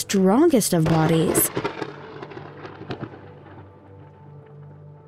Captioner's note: thunder crashing